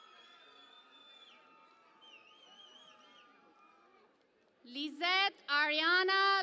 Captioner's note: cheering and Applause